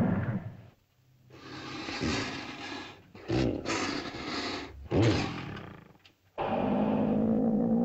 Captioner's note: dinosaur hisses and growls; dinosaurs growl & snarl